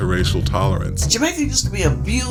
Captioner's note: soundbite of archived recording